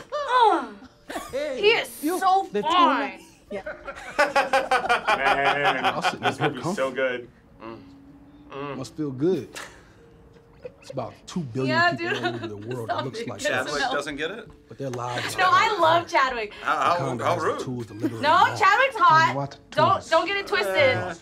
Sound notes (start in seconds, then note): 3.9 laughs; 10.2 laughs